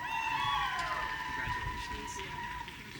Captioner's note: audience cheering